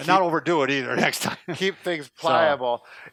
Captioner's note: laughing